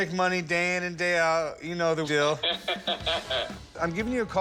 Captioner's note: laughs